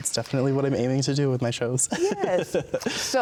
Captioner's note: laughs